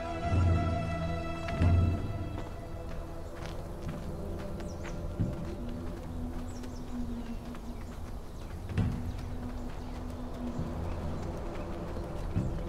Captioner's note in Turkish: Ayak sesleri